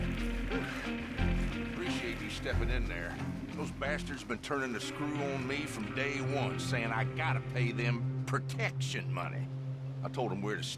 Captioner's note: sighs